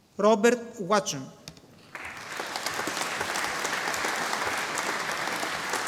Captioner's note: audience applauding